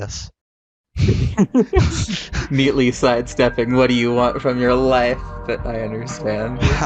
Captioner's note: both laugh; chill music starts fading in